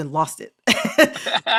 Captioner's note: laughter